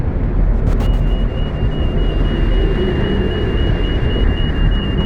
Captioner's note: alarm continues